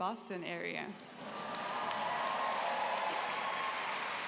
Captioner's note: laughter, applause